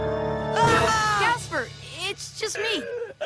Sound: screams

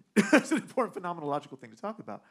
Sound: man laughing

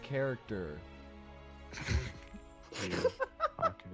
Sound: everyone laughs

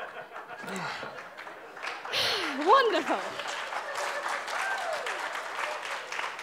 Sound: applause

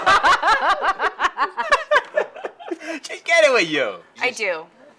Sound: laughs

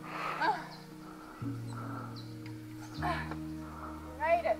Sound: groans

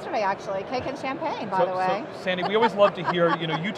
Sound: laughing

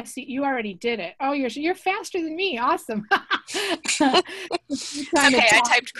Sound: laughs

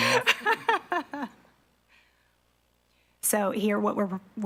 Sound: laughs

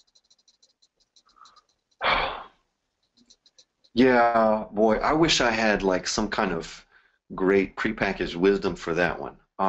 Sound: sighs

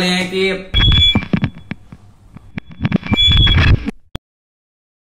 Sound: audio Distortion

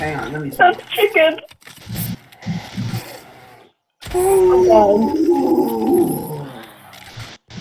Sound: bear sounds

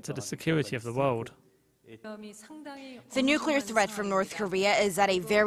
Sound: Korean

